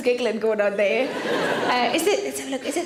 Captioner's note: audience laughs